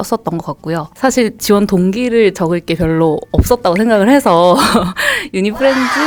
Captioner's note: laughs